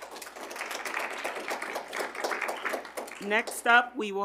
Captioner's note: audience applauding